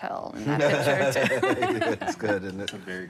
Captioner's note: laughs